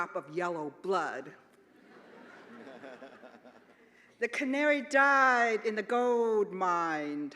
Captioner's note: laughter